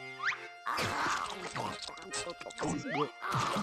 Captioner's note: munching; gulping